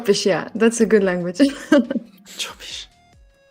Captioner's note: laughs